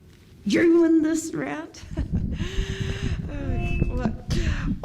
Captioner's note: laughs